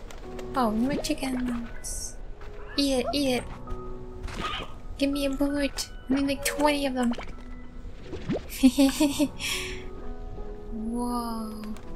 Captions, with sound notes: Oh, more chickens Eat it! Eat it! Gimme a plort! I need like twenty of them! (giggling) Whoa...